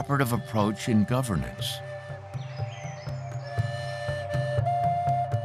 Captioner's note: birds calling